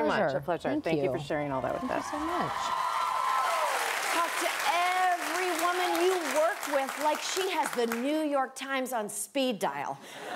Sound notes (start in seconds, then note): 7.1 applause